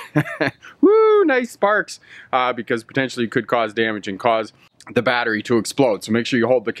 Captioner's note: LAUhGING